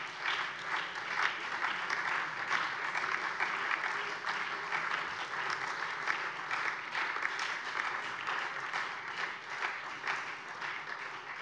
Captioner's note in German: Beifall SPD